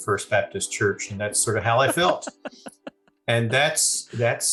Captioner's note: laughing